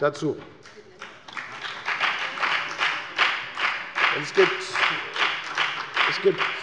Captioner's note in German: Beifall bei der FDP